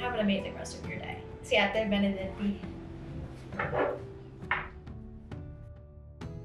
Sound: speaks in foreign language

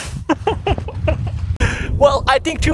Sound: laughs

